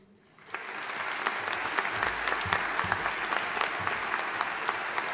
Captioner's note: audience applauding